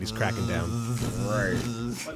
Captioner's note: makes buzzing noise